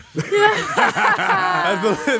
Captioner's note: laughing